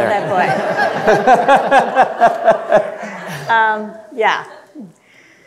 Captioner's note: audience laughing